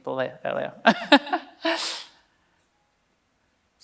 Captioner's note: laughs